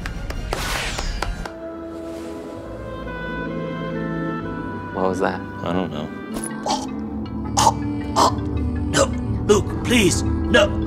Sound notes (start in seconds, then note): 0.0 clapping; 6.6 choking